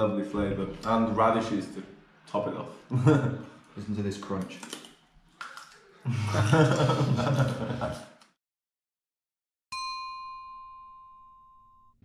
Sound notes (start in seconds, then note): 5.3 crunching; 6.0 laughing; 9.8 pinging